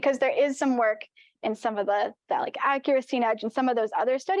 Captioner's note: audio blurs